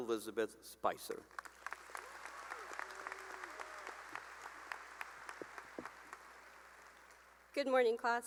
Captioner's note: cheering and applause